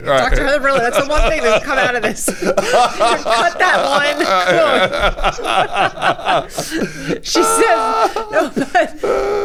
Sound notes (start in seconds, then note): 0.0 both laughing; 4.9 both laughing